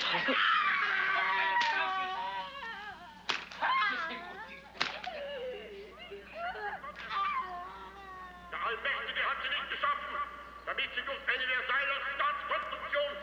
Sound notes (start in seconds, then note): 4.8 loud cracks and screams; 12.5 Hitler speaking in German over the PA system